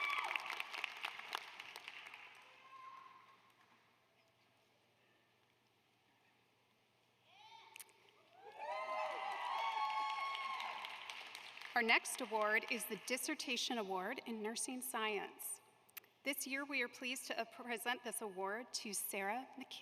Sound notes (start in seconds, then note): 3.0 applause